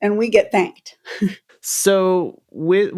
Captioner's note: laughter